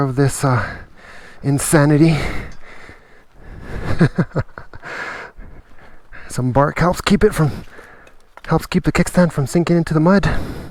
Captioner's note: laughs